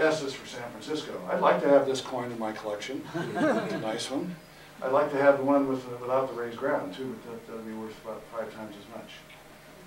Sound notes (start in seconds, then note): 3.0 laughter